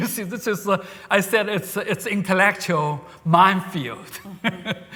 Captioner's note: laughs